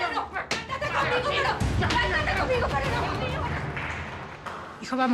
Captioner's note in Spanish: comentarios al unísono